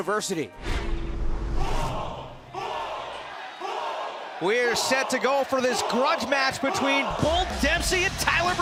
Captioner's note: fans chanting